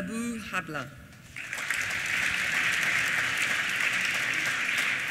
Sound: applause

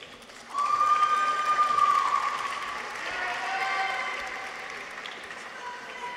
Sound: audience applauds; people cheer

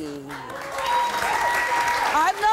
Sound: audience cheers

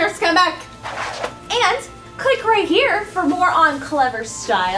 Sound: whooshes

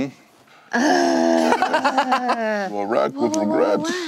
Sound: groans

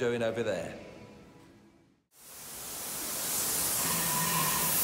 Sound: loud hissing noise from gas torch

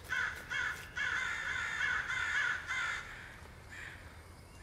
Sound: birds screeching

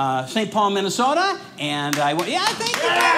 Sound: audience applauds

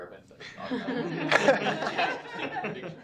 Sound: laughter

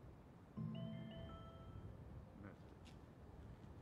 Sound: mobile bleeps - "message"

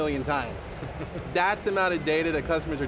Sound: laughter

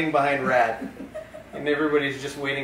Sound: laughter

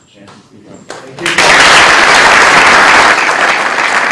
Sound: applause

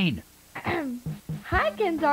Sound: ahem

